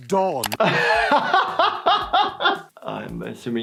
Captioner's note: laughing